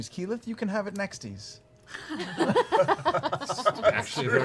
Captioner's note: laughter